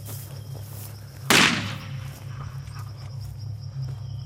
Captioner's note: rifle blasting